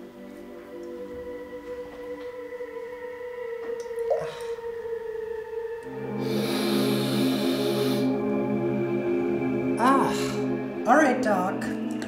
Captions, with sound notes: (sniffs deeply) - Ugh. - All right, Doc.